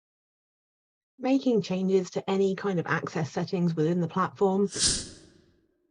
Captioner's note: whoosh